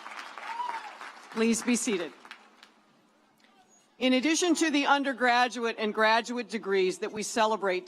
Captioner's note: cheers and applause